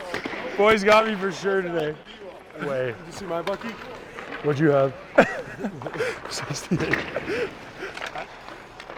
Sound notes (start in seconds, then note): 5.1 Xhekaj laughing; 5.1 laughs